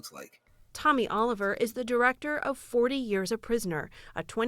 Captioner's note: voice-over